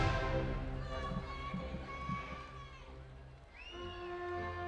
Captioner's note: audience applauding and cheering